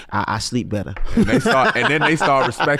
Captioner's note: laughs